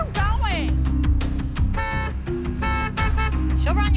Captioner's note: horn honks